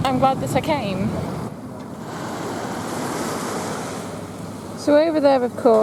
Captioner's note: water laps